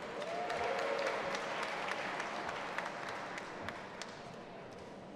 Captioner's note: audience applauding and cheering